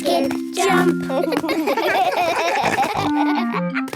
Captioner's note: laughing